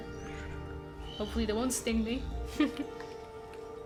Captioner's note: chuckle